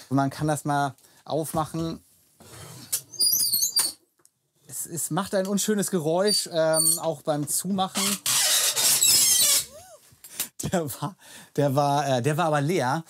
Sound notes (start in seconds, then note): 3.1 squeaking; 7.9 squealing